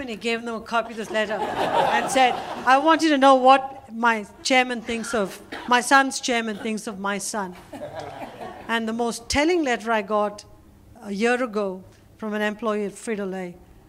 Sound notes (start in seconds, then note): 0.9 laughter